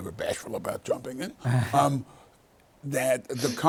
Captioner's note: laughs